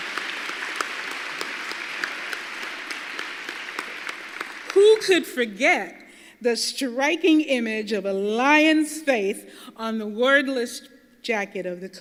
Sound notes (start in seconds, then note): 0.0 applause